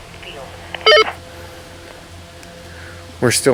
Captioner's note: walkie talkie bleeps